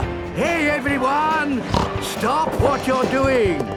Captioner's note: snorts